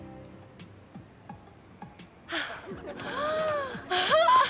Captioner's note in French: rire